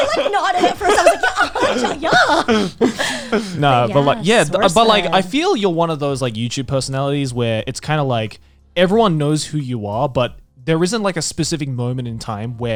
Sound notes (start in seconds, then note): 2.8 all laughing